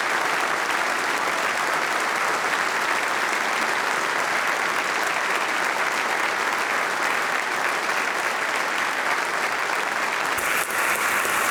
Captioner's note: applause